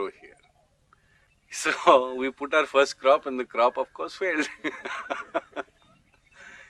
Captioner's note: laughs